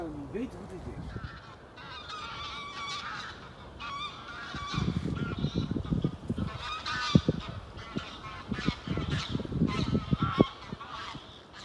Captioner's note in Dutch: Geluid van ganzen